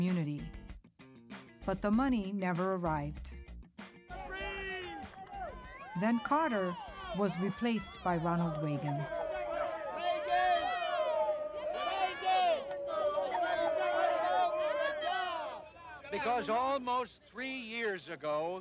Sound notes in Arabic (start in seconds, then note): 4.2 رجل يصرخ; 9.0 الناس يصرخون